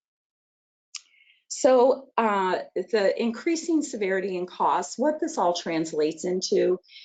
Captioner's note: none